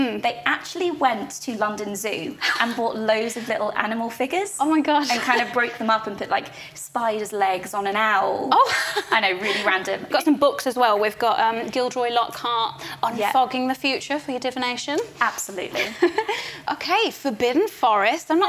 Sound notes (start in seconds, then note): 5.0 giggles; 8.6 laughs; 15.7 laughs